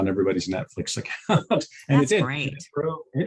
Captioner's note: chuckles